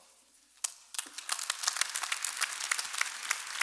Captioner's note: clapping